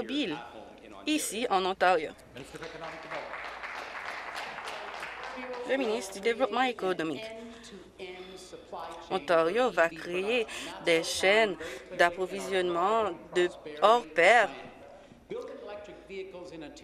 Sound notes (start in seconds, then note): 7.0 applause